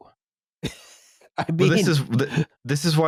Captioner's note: laughs